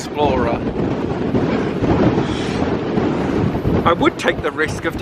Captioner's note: wind blowing loudly